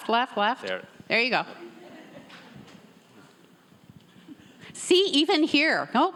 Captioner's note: audience members laughing